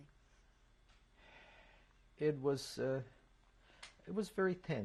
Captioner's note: sighs